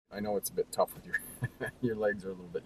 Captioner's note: laughs